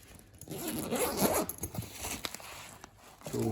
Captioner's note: sound of zip opening